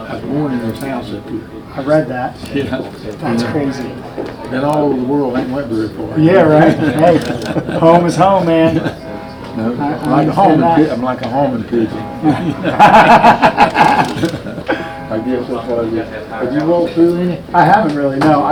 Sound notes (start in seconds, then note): 6.1 men laughing; 12.0 both laugh